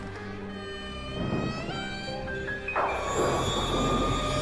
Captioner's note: eerie Tense Music; door Creaking; eerie Tense Music